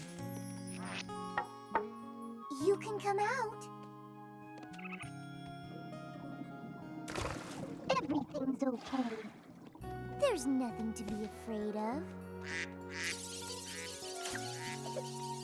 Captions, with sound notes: YOU CAN COME OUT. [ Warbly ] EVERYTHING'S OKAY. THERE'S NOTHING TO BE AFRAID OF. [ QUACKING ] [ ANIMALS CHATTERING ]